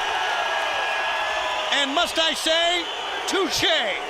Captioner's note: crowd cheering